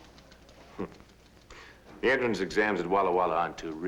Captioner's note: chuckles